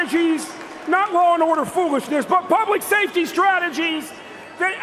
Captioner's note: cheers and applause